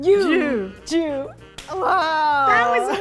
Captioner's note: counting in Japanese